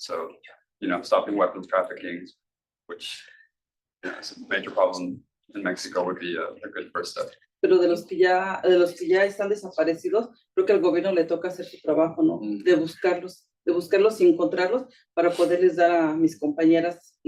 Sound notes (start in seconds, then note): 7.8 speaking Spanish